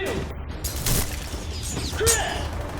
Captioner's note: guns firing